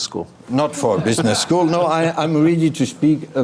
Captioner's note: people laughing